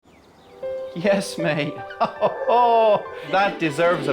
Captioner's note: chuckles